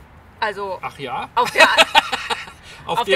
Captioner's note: laughs